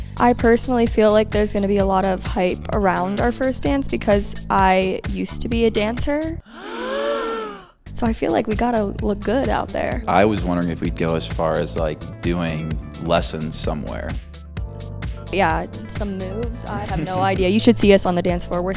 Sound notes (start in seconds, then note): 6.4 crowd gasping